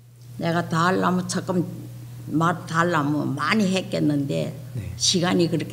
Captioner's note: speaking foreign language